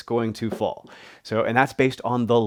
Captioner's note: marker clunks